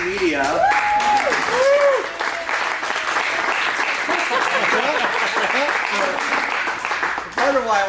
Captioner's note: applause